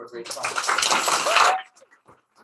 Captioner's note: applause